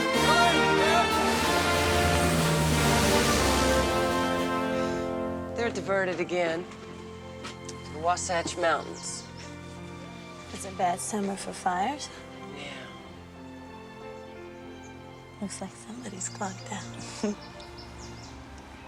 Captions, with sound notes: (plane engine roars) - They're diverted again to the Wasatch mountains. - It's a bad summer for fires. - Yeah. - Looks like somebody's clocked out.